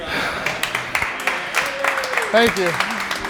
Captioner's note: teammates laugh; teammates applaud